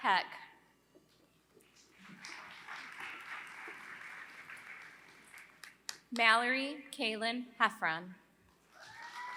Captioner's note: applause; applause